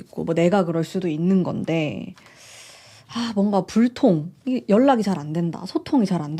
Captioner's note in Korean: 헉 소리